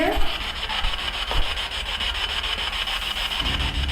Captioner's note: static buzzing